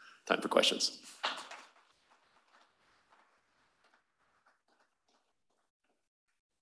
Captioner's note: applause